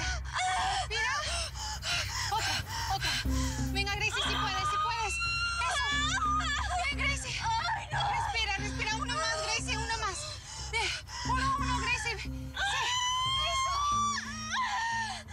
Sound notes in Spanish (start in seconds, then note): 5.1 gritos y quejidos; 12.5 siguen los gritos y quejidos